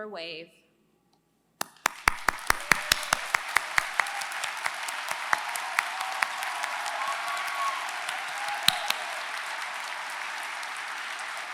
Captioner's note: applause